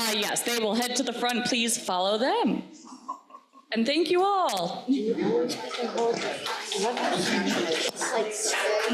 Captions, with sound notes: Yes, they will head to the front. Please follow them. And thank you all. (crowd applauding) (crowd chattering)